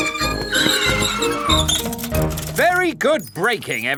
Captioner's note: giggling and ringing bells; tires screech